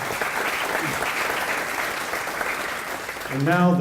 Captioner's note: applause